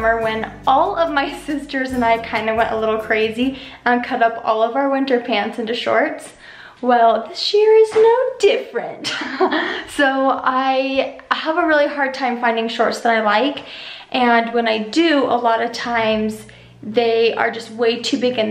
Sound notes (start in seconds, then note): 9.3 laughs